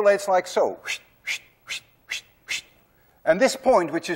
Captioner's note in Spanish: Hace sonidos silbante